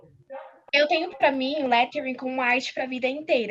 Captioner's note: non-english speech